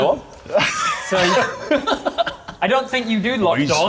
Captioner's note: laughter